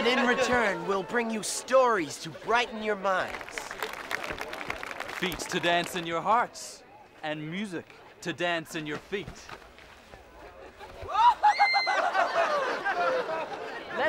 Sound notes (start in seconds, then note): 3.2 applause; 10.4 laughing